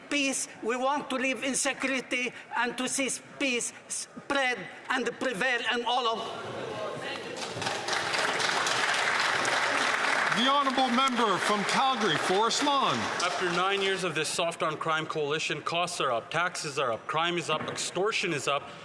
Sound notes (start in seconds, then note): 13.5 some Applause